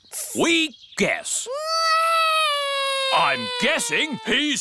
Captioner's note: alexander wails